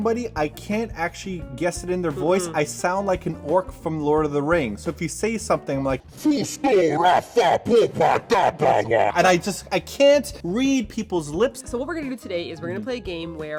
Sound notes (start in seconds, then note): 6.0 orc voice; 9.1 normal voice